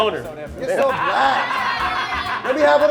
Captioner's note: laughing